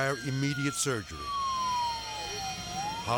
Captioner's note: sirens blaring